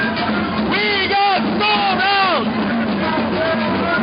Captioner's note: voiceover